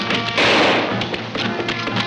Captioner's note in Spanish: Disparos